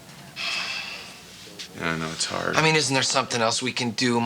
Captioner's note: Elliot sighing